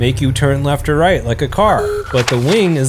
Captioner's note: car honking